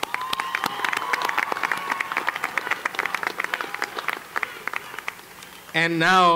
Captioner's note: applause